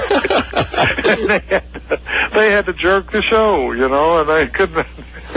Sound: laughs

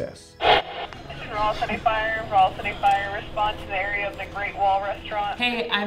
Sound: radio

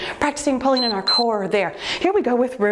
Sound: timer beeps

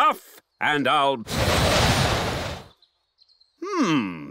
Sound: blows

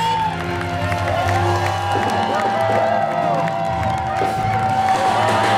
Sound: applause

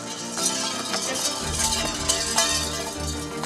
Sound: metal clanging

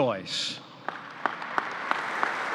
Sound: applause

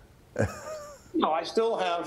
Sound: laughs

